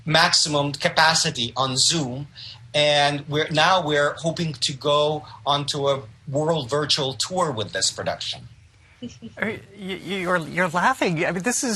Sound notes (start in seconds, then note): 9.0 chuckles